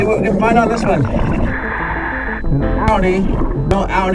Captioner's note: oxygen bubbling in water